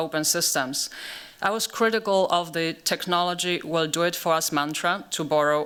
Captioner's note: german